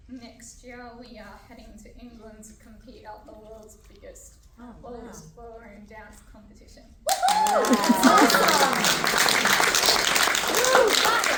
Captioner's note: applause